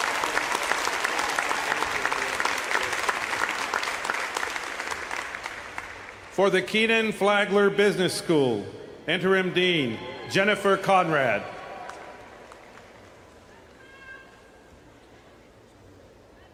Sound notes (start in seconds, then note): 0.0 applause